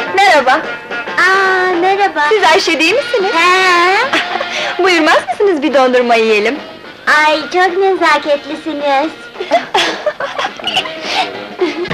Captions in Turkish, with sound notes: - Merhaba! - Ah, merhaba! - Siz Ayşe değil misiniz? - He! Buyurmaz mısınız bir dondurma yiyelim? Ay, çok nezaketlisiniz! [Gülüşmeler]